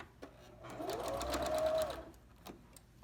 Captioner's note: sewing machine hums